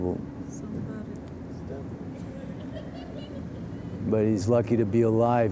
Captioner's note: people murmuring